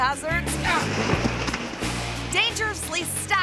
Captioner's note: paper towels thud